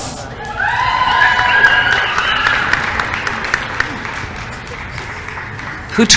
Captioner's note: applause